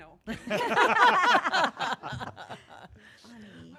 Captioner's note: laughing